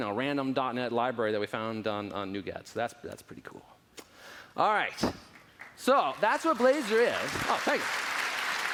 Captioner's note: applause